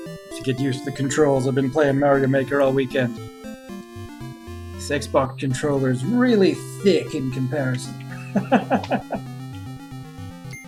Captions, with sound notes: Have to get used to the controls, I've been playing Mario Maker all weekend. This XBox controller is really thick in comparison. [chuckles]